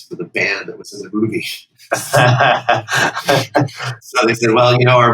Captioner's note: laughter